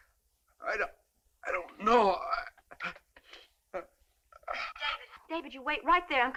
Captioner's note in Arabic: تأوه